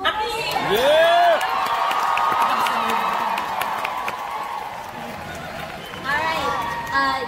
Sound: audience claps & cheers

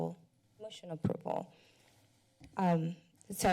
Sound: pause

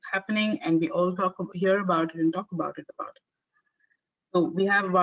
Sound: audio static

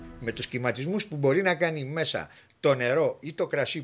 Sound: speaking in Greek

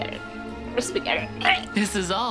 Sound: gags

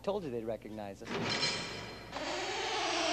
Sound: door creaks open; clinks

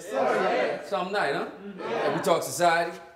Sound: crowd

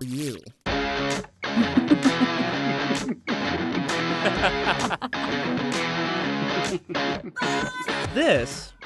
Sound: all laughing

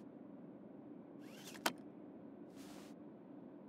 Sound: buckles up seatbelt

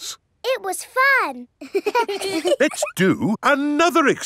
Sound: children laughing

